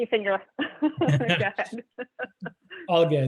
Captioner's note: laughs